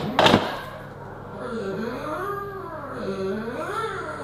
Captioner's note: pug growling